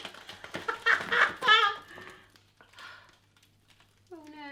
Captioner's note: laughing